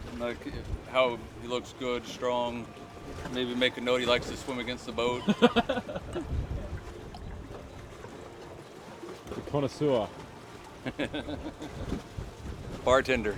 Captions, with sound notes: and like how he looks good, strong, maybe make a note he likes to swim against the boat. [LAUGHTER] The connoisseur. [LAUGHTER] Bartender.